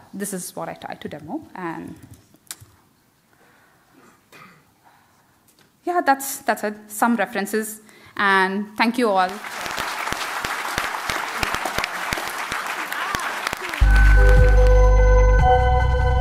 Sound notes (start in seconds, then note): 9.2 applause